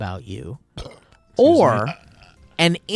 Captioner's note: burps